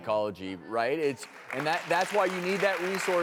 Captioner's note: applause